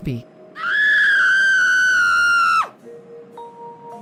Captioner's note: person screaming